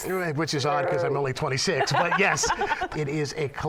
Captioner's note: laughter